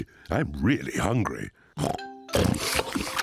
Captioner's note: all munching; snorts